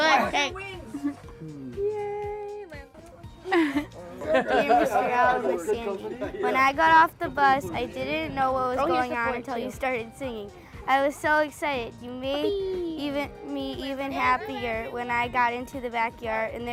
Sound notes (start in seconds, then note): 3.4 all laughing